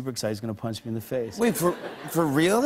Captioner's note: laughter